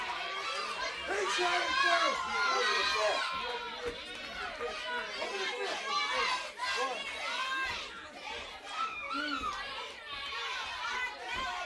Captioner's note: crowd chatter